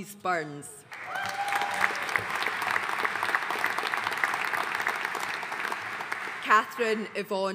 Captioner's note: audience cheering and applauding